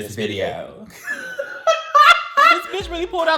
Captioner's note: laughs